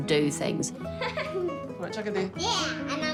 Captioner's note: laughs